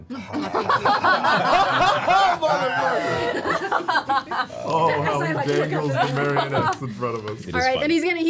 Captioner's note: laughter